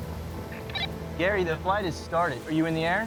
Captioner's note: radio chirps